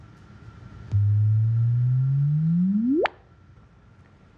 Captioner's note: hum rises in tone, ends with a click